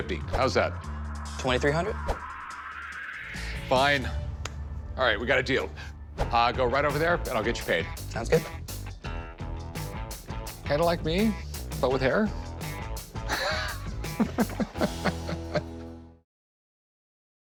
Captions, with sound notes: How's that? - 2,300? - Fine. All right, we got a deal. Go right over there, and I'll get you paid. - Sounds good. - Kind of like me, but with hair? [laughs]